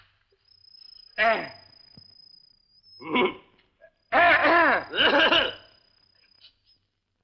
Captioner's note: clears throat